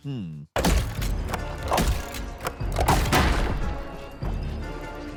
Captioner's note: monster book thud